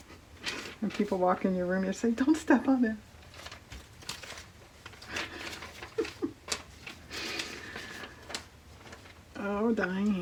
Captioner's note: laughs